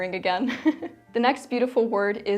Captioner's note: laughs